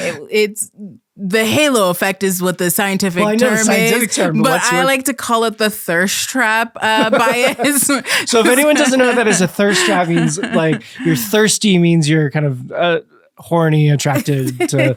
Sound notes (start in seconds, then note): 6.8 laughing